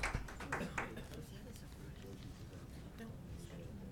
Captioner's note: chatter